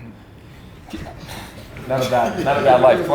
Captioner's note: group laughs